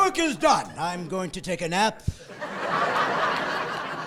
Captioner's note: laughing